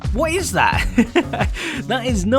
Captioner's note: chuckle